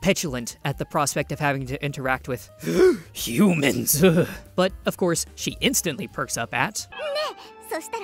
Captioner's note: shudders